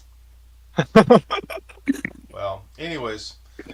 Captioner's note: laughing